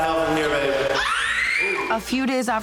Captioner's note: squeals